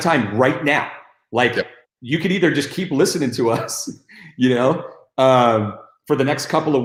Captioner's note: chuckles